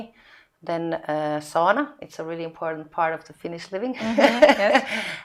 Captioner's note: laughing